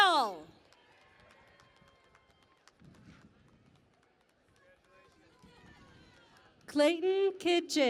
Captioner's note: cheering and Applause